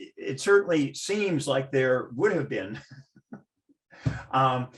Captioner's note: laughs